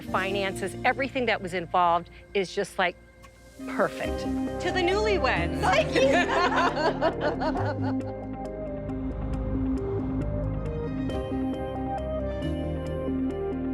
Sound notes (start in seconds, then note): 5.6 laughs; 9.4 dramatic music